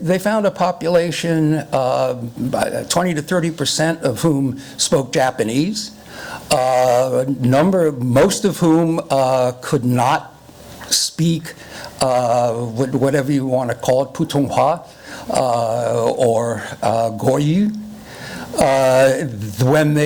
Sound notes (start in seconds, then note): 14.8 foreign language